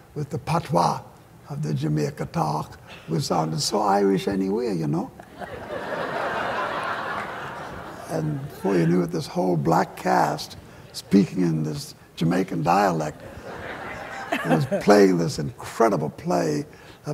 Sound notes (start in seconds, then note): 5.2 laughter